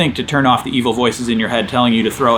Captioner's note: car zooming